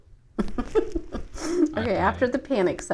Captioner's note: laughing together